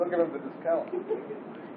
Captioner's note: Gülüyor